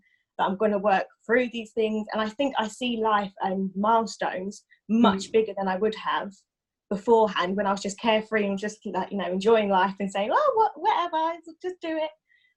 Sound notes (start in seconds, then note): none